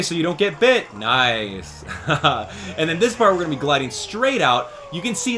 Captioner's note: laughs